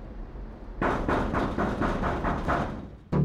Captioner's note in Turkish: Kapı Çalıyor